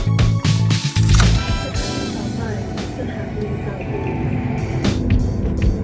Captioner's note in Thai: เสียงประกาศ mrt